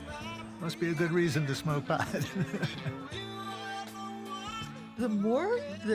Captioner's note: laughing